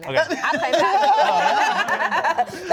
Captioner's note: laugh